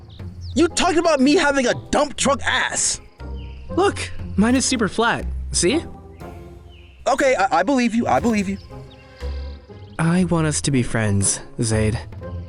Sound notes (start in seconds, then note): 7.2 stammering